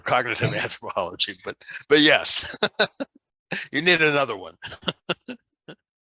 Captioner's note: laughs